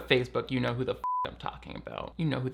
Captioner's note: beep